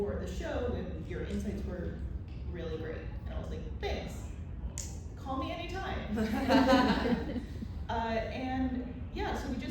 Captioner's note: laughter